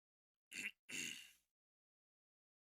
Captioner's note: ahem